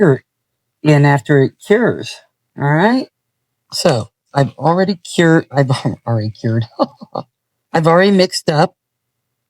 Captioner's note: ha ha